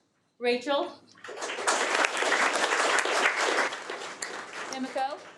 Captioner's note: audience applauding